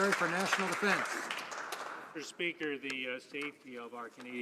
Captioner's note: some Applause